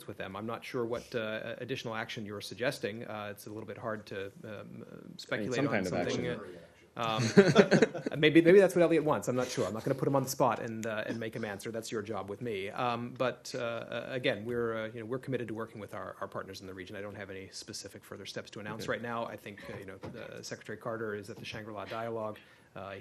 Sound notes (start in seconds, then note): 7.1 laughter